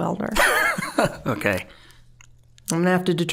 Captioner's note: laughing